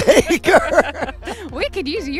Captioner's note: laughing